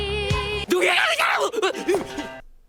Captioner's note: screams in anime